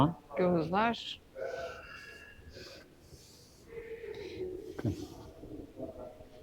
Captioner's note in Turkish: homurdanır